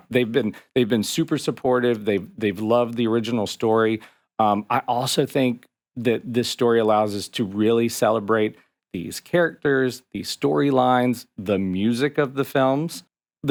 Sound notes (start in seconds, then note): none